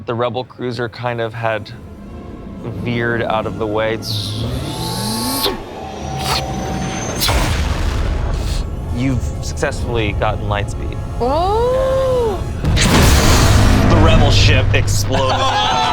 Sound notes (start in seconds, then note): 4.7 imitates lightspeed; 12.5 explosion booms